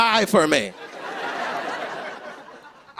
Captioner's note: laughter